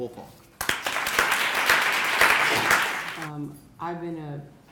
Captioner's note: crowd applauding